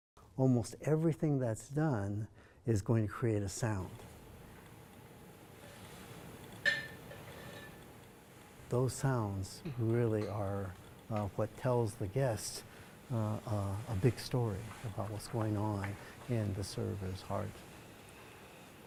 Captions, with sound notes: - Almost everything that's done, is going to create a sound. (teapot clacking) Those sounds really are what tells the guest a big story about what's going on in the server's heart.